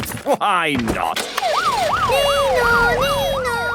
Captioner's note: siren sounding